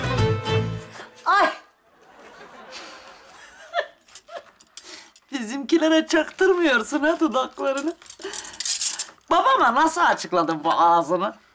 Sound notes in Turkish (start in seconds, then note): 1.8 Gülme efekti; 3.6 Gülme sesi